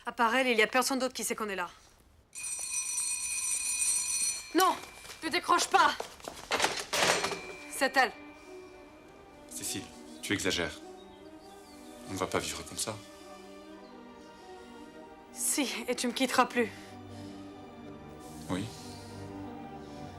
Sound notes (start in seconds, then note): 2.4 ring!